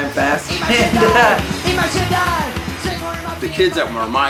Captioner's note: laughs